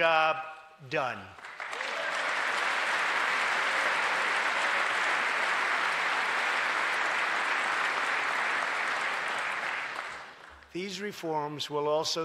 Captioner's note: applause